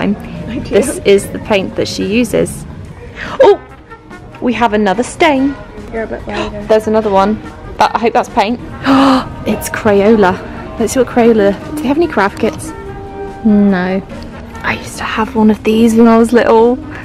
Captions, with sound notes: this is the paint that she uses. Oh! We have another stain. There's another one. I hope that's paint. *Gasps* It's Crayola. Let's look at Crayola. Do they have any craft kits? No. I used to have one of these when I was little!